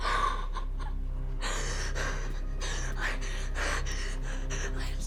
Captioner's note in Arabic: روبن تنتحب; فرط التنفس